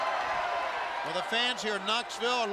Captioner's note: crowd cheering